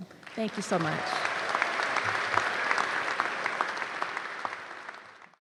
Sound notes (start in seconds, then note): 1.5 applause